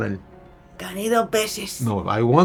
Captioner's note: in Spanish